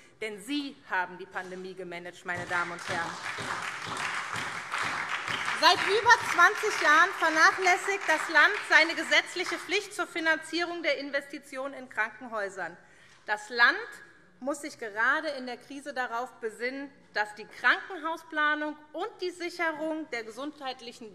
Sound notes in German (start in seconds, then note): 2.4 Beifall SPD